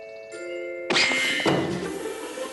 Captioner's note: zing!